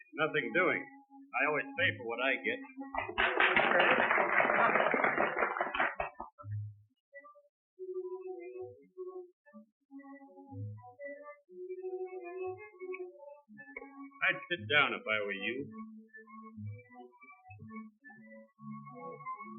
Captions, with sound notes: Nothing doing. I always pay for what I get. [soldiers applauding] I'd sit down if I were you.